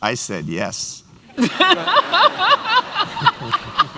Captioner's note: laughter